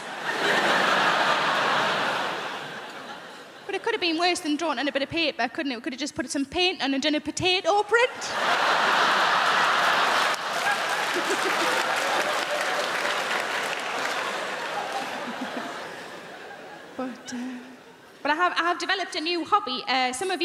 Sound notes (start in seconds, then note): 0.0 crowd laughing; 8.1 crowd laughing; 8.7 crowd clapping